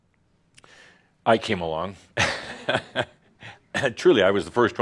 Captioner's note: chuckles